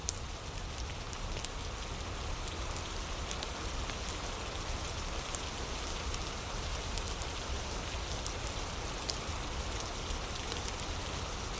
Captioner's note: fire crackling